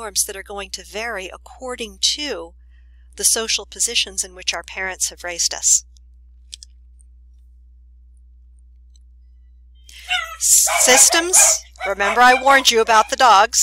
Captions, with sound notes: that are going to vary according to the social positions in which our parents have raised us. [barking dogs in background] Systems-- remember I warned you about the dogs?